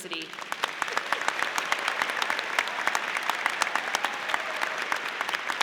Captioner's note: audience applauding